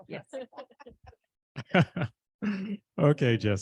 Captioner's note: laughter